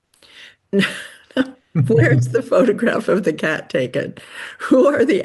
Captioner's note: chuckles